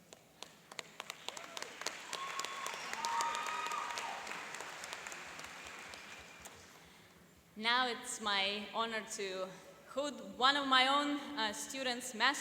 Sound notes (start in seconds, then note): 0.7 applauding and cheering